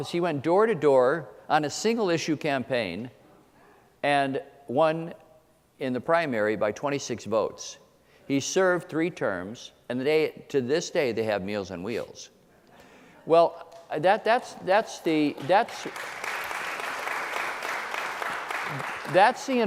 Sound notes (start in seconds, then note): 15.3 applause